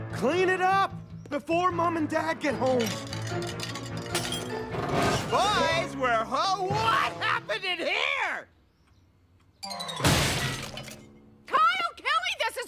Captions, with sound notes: Boys, we're ho- WHAT HAPPENED IN HERE? (crash) Kyle Kelley, this is all your fault! But Ian- But Ian nothing. You're the oldest. You're supposed to be in charge.